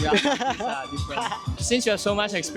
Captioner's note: trigonometric laugh